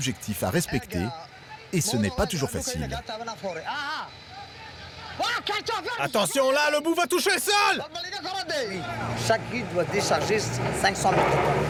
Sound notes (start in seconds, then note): 5.3 speaking foreign language